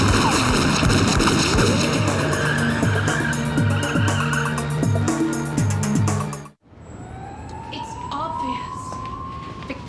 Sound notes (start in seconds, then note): 0.0 gun firing; 2.7 tires squealing